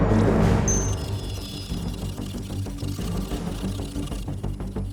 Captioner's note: dramatic music; device whirring